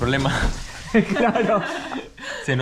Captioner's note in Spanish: Entre risas